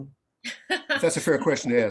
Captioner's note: laughs